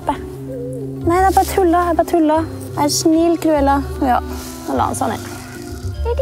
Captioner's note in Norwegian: Hunden klynker